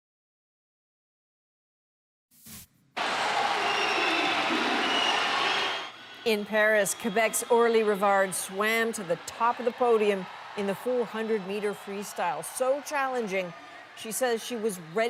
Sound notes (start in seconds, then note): 7.7 cheers and Applause